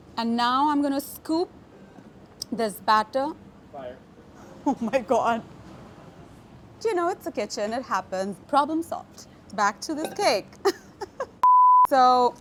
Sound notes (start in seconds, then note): 10.5 laughs